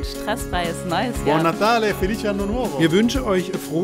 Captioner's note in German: Italienisch